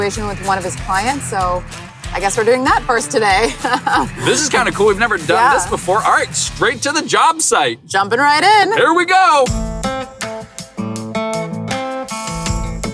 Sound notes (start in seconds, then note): 3.0 laughs; 9.3 guitar music